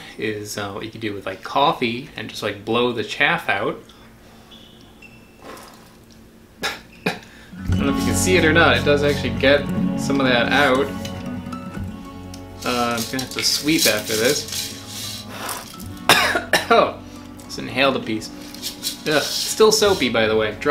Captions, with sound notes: is, what you can do with like coffee, and just like blow the chaff out. (man coughs) (guitar music) I don't know if you can see it or not. It does actually get some of that out. I'm going to have to sweep after this. (man coughs) Just inhaled a piece. (seeds rattle) Still soapy be by the way.